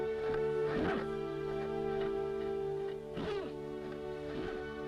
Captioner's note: horse snorting